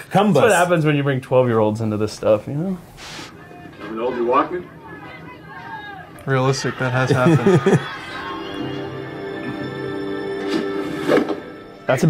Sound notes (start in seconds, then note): 7.1 Joc laughing; 8.3 dramatic music